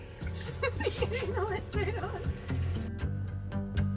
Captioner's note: giggling; light music